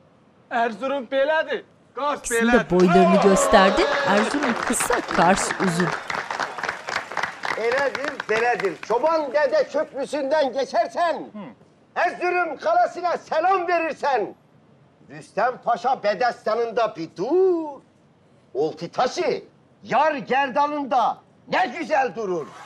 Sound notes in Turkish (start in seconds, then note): 4.0 Alkış sesleri; 4.0 Gülme sesleri